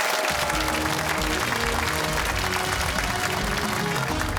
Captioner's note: cheers and applause